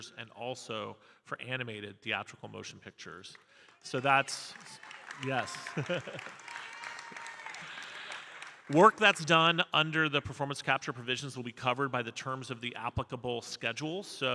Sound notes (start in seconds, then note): 6.0 audience cheering and applauding